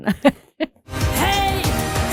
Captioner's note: laughs